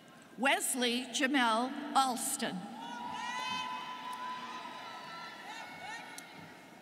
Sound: students cheering

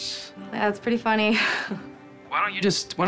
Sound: laughs

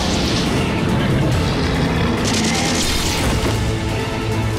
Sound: gun blasting

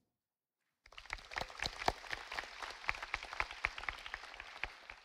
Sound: audience applauding

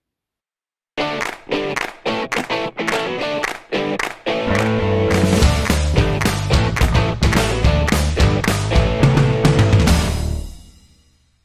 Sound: claps

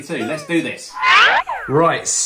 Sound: slide whistle

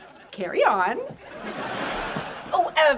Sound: laughing

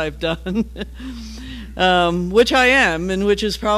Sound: laugh

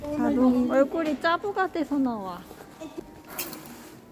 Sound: laught

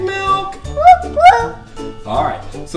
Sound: little girl whoops

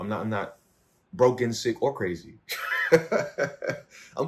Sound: laughs

